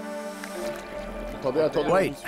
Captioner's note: speaking French